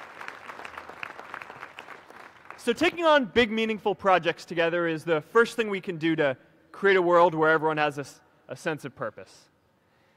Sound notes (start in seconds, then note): 4.0 applause